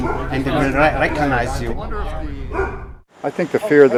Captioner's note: non-english speech